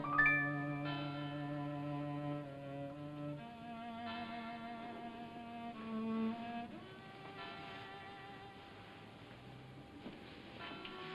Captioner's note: bell tolling in distance; melancholy music